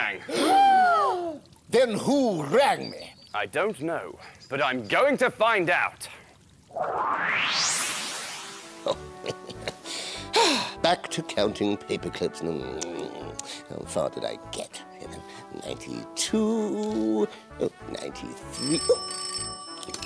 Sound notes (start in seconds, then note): 0.2 gasp!; 9.9 sigh!; 18.5 ring! Ring!